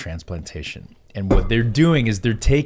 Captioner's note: mug clangs